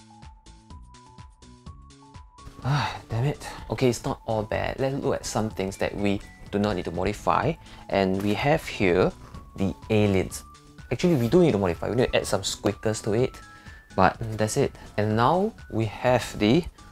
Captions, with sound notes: *sigh* damn it Okay, it's not all bad! Let's look at some things that we do not need to modify and we have here the aliens Actually we do need to modify we needa add some squeakers to it but that's it And now we have the